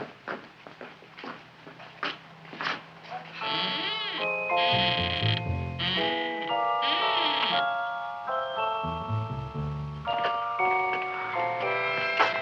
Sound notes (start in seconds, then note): 3.1 Audrey Jr. creaking; 4.2 intriguing music